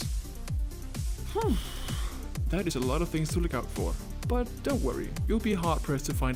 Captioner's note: phew